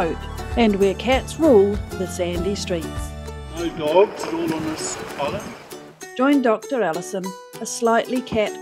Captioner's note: waves lapping